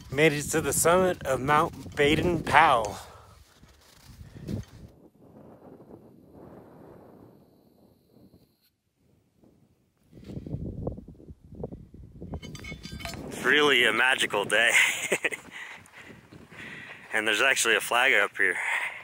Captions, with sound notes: Made it to the summit of Mt. Baden-Powell. It's really a magical day. (laughs) And there's actually a flag up here.